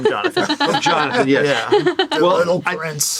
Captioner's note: laughs